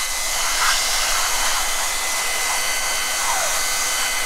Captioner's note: machine whirring